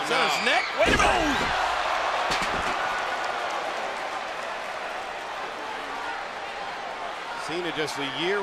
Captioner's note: applause